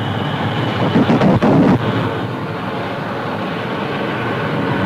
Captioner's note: plane engines roaring; fire whooshing